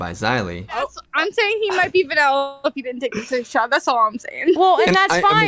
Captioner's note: chuckles